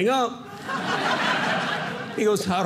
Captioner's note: audience laughing